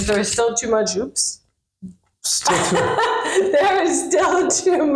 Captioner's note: laughing